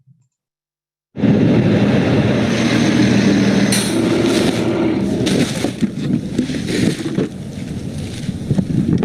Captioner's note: sounds of garbage trucks, garbage thrown, carts rolling